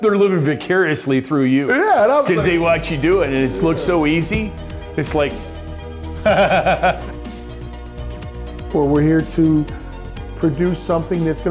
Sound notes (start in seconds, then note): 6.2 chuckles